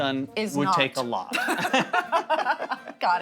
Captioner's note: both laugh